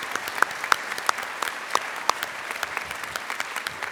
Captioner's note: applause